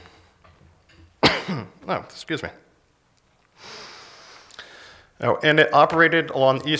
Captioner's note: coughs